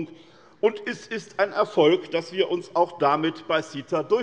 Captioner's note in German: none